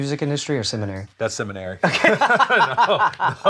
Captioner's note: both laugh